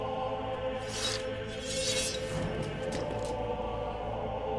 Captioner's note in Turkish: Kılıç sesleri